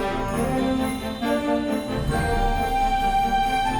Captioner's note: traffic humming; horns honking